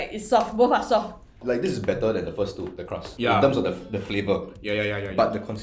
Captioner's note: yas' in agreement